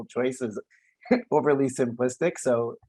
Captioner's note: laughs